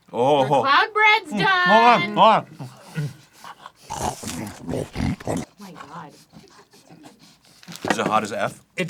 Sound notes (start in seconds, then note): 3.8 pig-like snort; 3.9 growls like a territorial bull